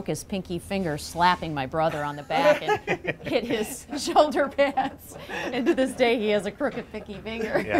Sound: laughs

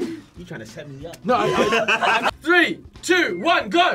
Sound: laughs; laughs

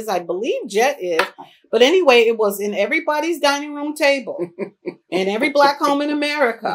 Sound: laughter

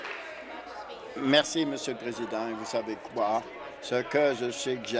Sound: some Applause

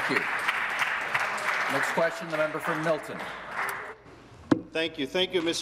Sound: applause

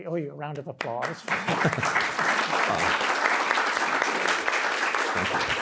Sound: audience applauding

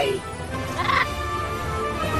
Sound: parrot squawks

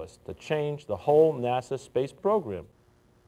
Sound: none

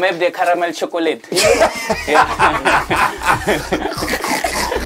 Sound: men laughing

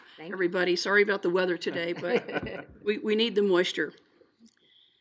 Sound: laughing

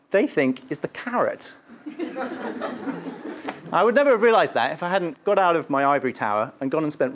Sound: laugh

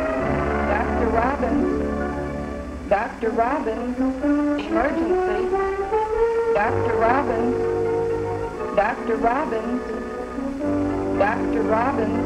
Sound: intercom

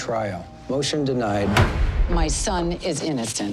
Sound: gavel bangs

